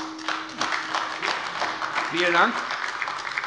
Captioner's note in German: Beifall AfD